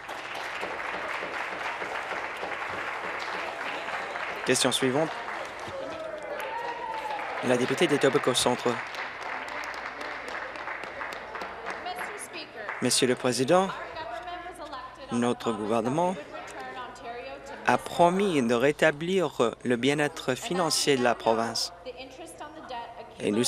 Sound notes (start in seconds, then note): 4.4 applause